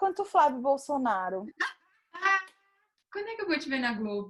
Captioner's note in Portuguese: gargalhada